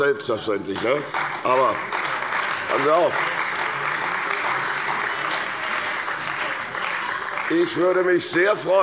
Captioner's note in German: Beifall bei der CDU und dem BÜNDNIS 90/DIE GRÜNEN